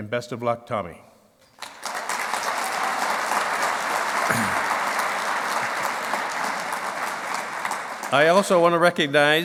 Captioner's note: clapping